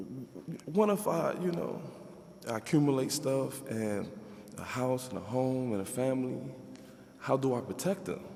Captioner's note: none